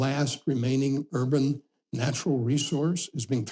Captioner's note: none